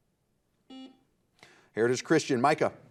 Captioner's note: buzzer beeping